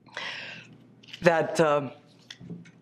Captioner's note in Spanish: hablan inglés